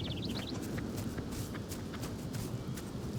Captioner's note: birds chirping